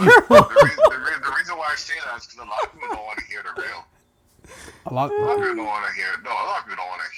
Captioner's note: laughing